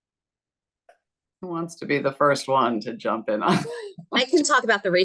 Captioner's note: chuckles